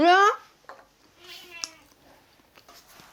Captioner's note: meow